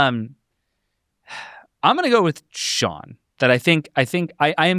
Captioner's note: sighs